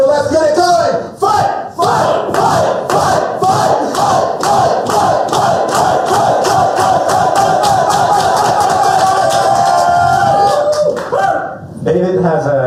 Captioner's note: chanting